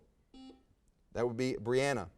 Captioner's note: buzzer buzzes